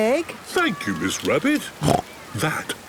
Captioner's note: snorts